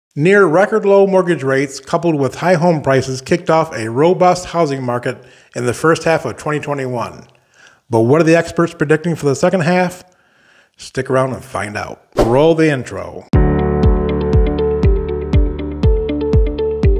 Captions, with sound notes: - Near record low mortgage rates, coupled with high home prices kicked off a robust housing market in the first half of 2021. But what are the experts predicting for the second half? Stick around and find out. (whoosh) Roll the intro. (warm percussive music)